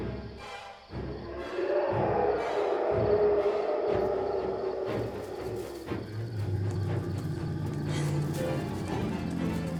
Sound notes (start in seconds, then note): 6.3 growling